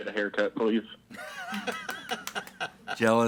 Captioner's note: laughs